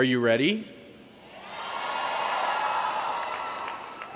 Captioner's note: cheering